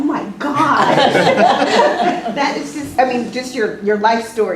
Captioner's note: laugh